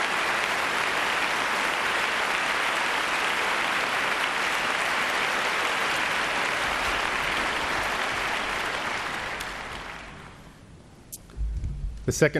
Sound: applause

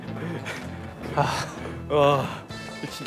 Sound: sighing and heading to the control room

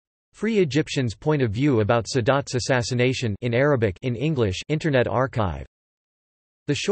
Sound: in Arabic

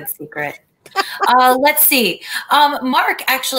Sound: laughter

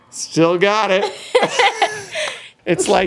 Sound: laughing

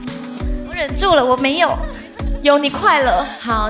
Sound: crying

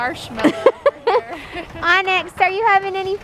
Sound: laughing

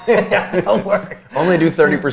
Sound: laughs

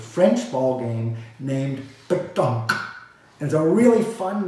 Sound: speaks foreign language

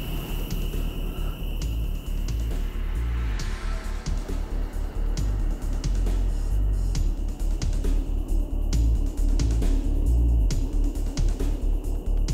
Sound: whispering

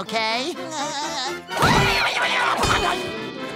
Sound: screaming

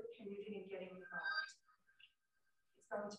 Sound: message alarm ringing

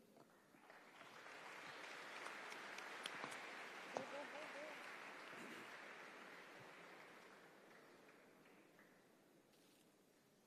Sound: applause

